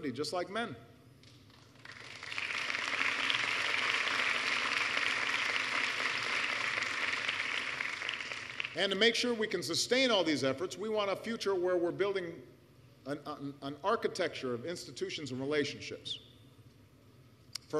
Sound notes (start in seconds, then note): 4.7 applause